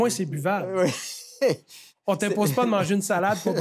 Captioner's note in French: rires